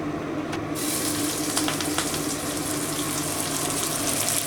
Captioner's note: sizzling